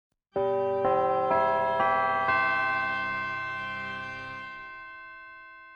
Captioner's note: bells chime